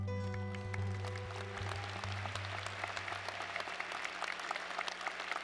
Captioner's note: soft acoustic music; audience applauding